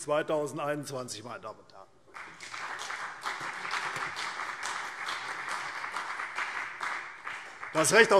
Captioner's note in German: Beifall CDU und vereinzelt BÜNDNIS 90/DIE GRÜNEN